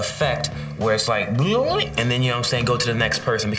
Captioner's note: imitates water bubbling